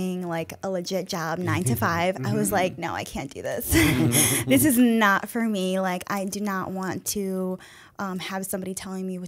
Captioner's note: chuckle